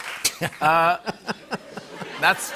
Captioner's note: laughter